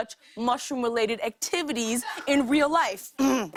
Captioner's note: clears throat